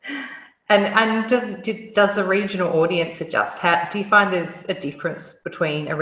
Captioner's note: laugh